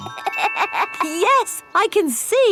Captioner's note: laughs